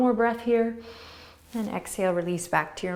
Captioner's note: inhaling